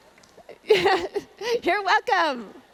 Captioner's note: laughs